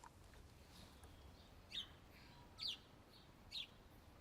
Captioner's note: birdsong